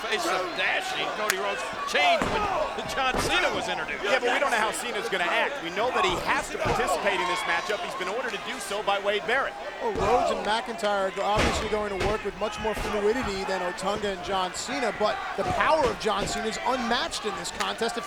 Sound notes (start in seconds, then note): 3.7 blows Thudding